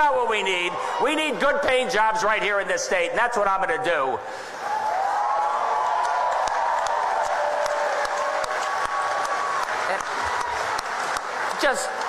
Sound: audience cheers

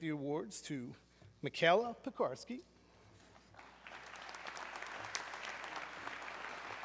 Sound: audience clapping

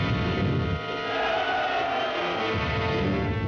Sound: men shouting; dramatic music

